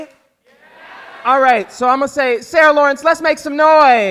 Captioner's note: crowd talking